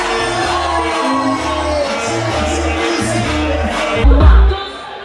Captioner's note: crowd cheers